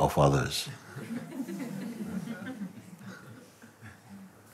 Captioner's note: Lachen